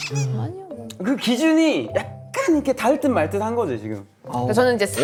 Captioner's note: excited